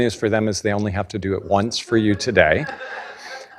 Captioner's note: laughing